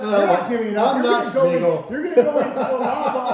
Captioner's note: laughing